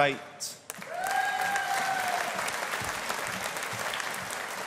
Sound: audience applauding

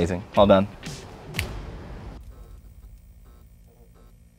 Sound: both clap

